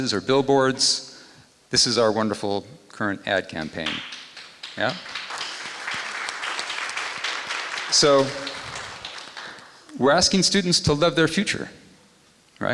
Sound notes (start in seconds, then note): 3.8 applause